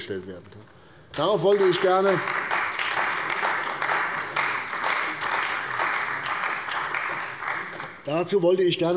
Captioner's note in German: Beifall bei der CDU und dem BÜNDNIS 90/DIE GRÜNEN